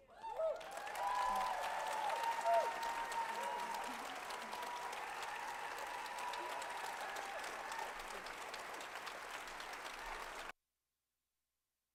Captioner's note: applause